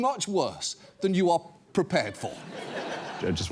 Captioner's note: audience laughs